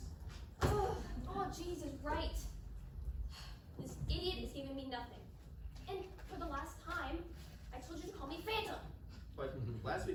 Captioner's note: sigh